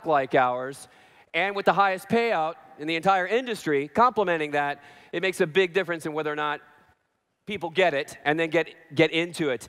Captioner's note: none